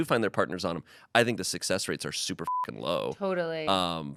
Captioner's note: beep